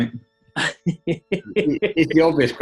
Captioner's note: chuckling